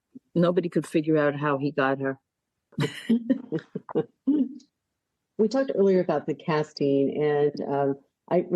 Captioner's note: laughing